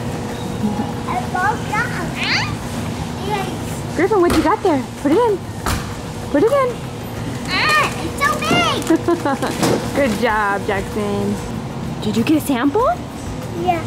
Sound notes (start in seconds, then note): 8.8 laughs